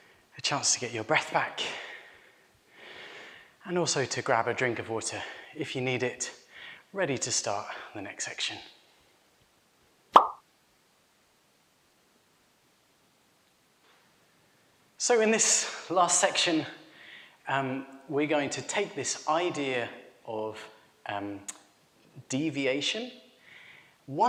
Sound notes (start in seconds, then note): 10.1 pop